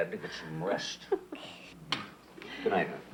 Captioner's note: Lucy laughs